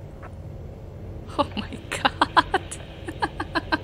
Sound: chuckles

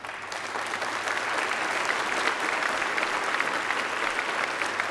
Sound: applause

